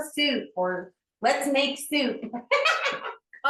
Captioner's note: laughs